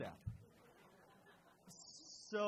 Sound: crowd laughs

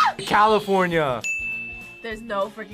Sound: buzzer rings; bell rings

